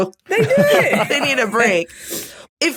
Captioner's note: laughs